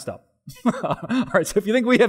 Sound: pastor: Laughter

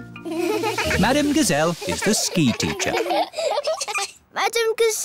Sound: laughing

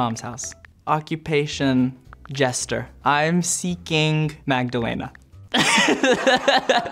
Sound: laughing

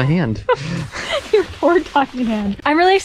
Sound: laughs

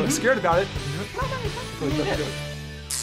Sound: mumbles

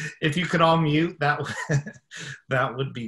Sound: laughing

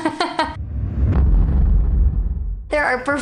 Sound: mines exploding

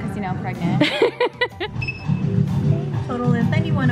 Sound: laughing

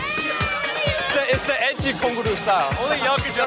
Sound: korean

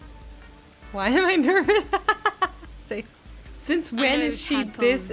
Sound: laughs

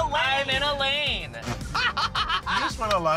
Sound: laughing

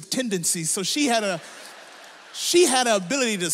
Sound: audience laughs

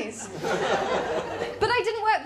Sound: laughter

